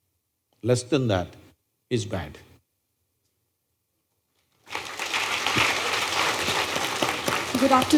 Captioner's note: applause